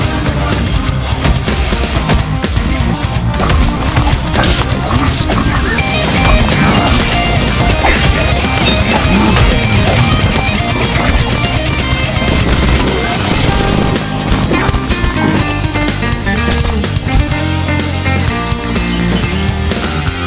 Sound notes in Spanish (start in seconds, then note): 8.1 Gemidos de a verga que hace